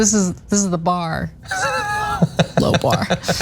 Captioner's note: laugh